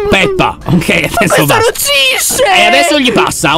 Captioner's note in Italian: ride nervosamente